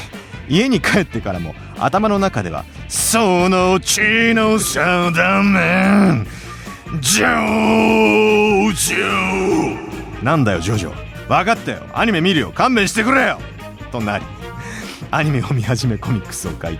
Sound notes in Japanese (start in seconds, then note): 7.0 叫び声; 7.0 うめき声